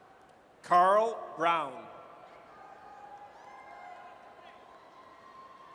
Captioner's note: audience cheers